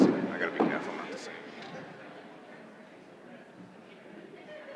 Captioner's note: indistinguishable chatter